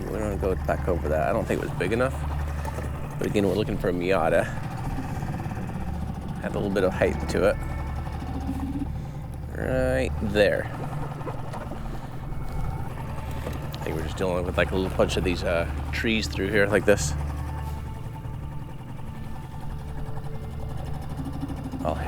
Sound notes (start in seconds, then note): 11.6 engine chugging; 11.6 water sloshing; 18.4 engine chugging; 18.4 water sloshing